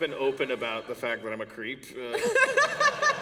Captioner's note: laughter